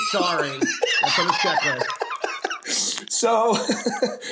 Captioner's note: laughs